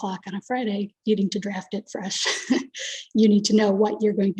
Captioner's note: chuckles